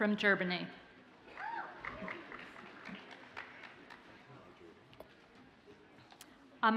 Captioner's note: audience cheers and applauds faintly